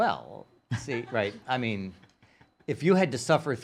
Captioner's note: laughing